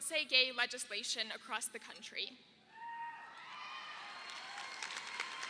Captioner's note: crowd claps; man cheers